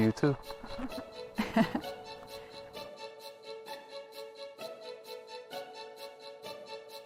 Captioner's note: Harmony giggles